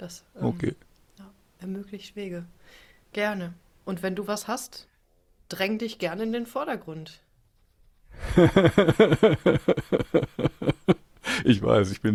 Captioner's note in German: gelächter